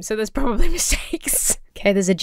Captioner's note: laughs